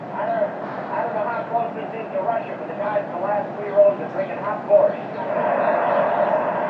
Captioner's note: Bob Hope on loudspeaker